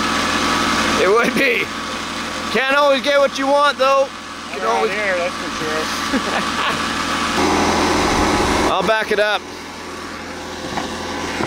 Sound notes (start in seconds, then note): 6.0 laughing